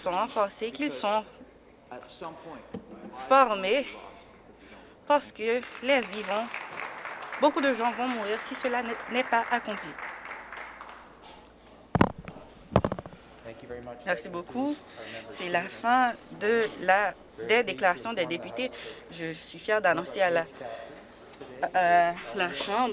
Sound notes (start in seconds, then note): 9.3 applause